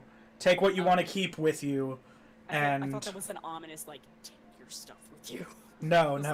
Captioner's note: deep voice